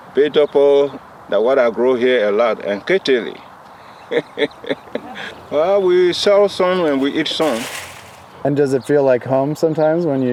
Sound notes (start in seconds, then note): 4.0 laughs